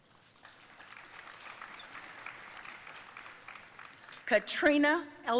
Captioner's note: audience applauding